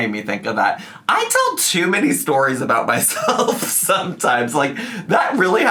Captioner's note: laughs